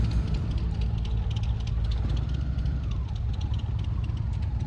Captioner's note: engine rumbling